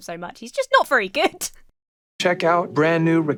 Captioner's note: laughs